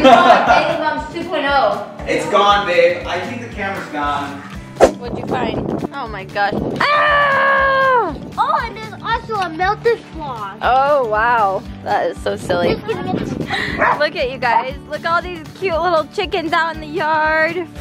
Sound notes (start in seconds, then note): 6.8 screams playfully